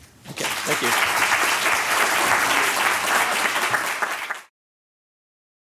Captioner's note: applause